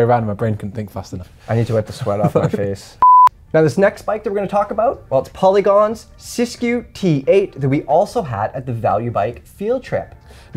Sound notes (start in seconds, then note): 3.0 beep